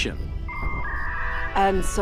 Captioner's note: dial-up sounds